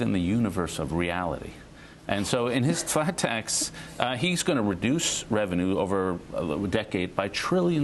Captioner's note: laughter